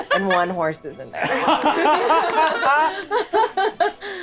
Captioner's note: all laughing